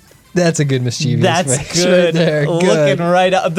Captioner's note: pat